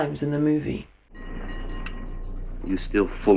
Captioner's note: bells dinging